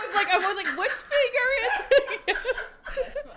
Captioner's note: attendees laughing; laughs